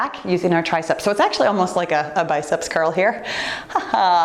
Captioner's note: giggles